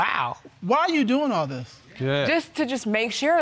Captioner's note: none